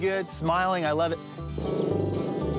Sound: growling

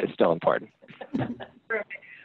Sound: laughing

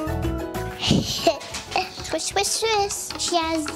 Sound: giggling

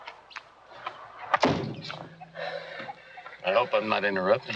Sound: door opens; door slams

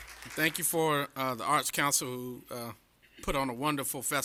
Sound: applause

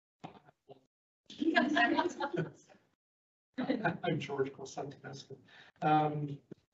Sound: laughter

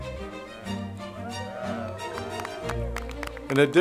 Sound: applause

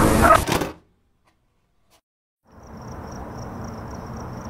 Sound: static and distorted screaming; silence as the sound of a VHS tape ejecting plays; night ambience fades in and plays

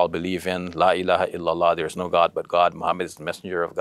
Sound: speaks Arabic

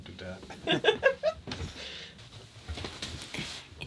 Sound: laughs

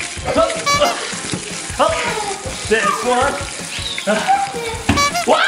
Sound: laughs

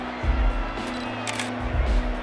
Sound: camera shutter

